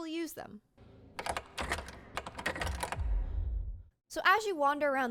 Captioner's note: door noises